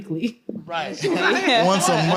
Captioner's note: laughter